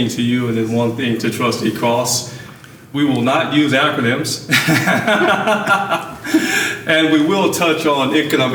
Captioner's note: laughing